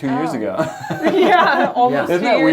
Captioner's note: laughter